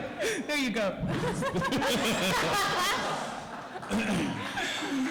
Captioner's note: laughter